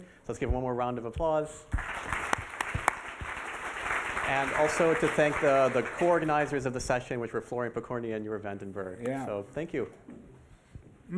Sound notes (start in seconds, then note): 1.7 applause